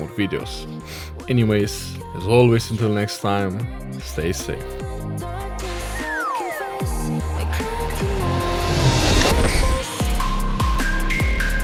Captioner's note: sniff